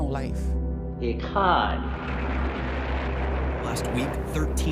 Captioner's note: speaking in foreign language